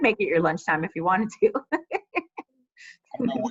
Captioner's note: laughs